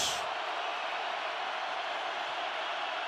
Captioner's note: crowd cheering